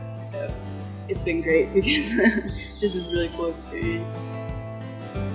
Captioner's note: laughs